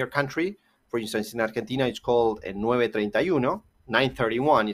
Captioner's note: spanish